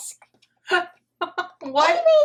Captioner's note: nana laughing